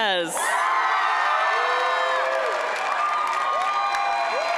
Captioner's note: applause